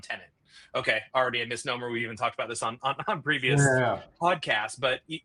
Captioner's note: chuckles